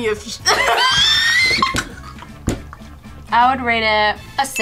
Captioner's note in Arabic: كلاهما يضحك